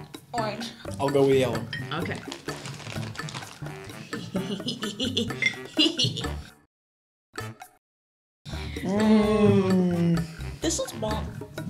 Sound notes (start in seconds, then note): 4.1 manaical laughter